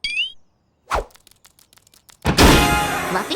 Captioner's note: door slams open